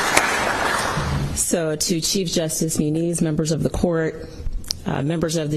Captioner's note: applause